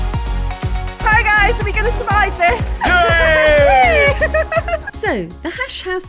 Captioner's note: laughing